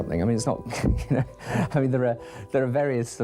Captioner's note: Tony laughs